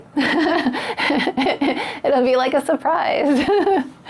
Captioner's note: laughs